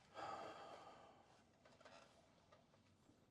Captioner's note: sighs